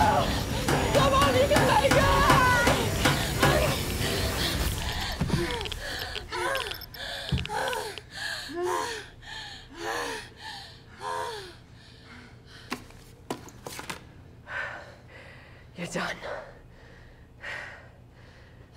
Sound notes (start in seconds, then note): 4.1 intense music; 6.6 heavy breathing